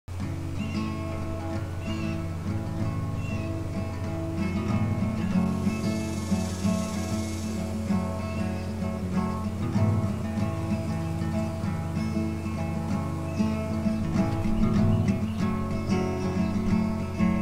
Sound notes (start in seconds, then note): 0.5 soft guitar music throughout; 4.3 bird sounds; 6.9 cicadas rattling